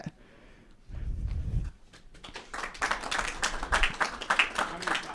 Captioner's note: applause